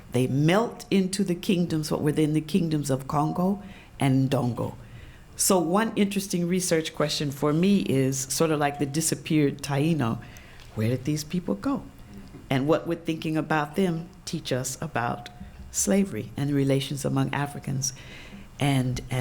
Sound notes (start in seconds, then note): none